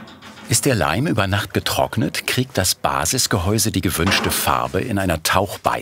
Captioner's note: none